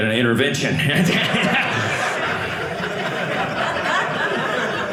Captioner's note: audience laughing